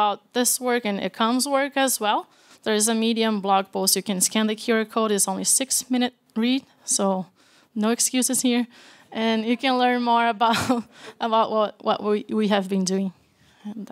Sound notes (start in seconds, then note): 11.0 laughs